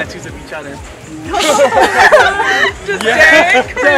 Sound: laughing

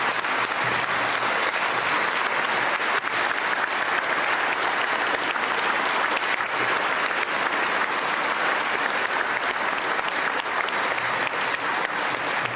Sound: applause

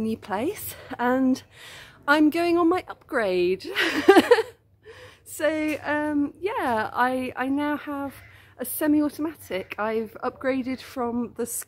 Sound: laughing

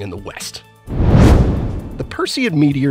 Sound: meteor whooshes

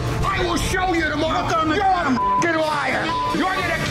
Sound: beeping

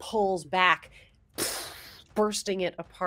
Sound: mimics explosion

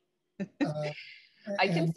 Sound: chuckling

